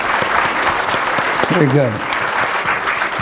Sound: applause

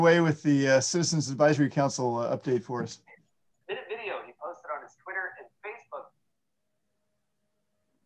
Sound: television interference background noise

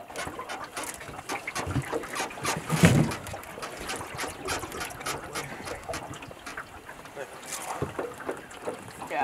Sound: boat squeaking

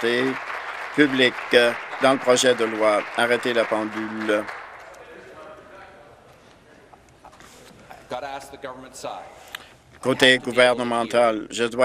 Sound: applause

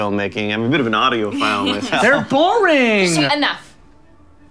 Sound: laughs

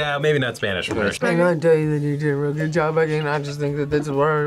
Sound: as Boomhauer

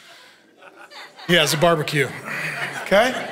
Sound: congregation laughing

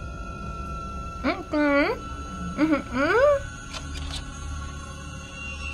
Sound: tense music; hums

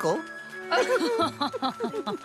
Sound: laugh

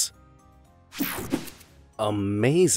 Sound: logo snaps

